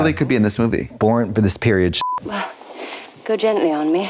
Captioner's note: beep